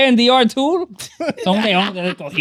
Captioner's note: laughing